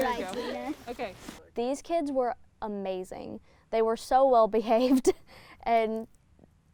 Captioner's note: laughs